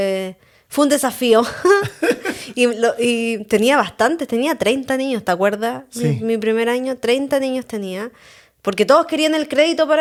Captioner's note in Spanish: risas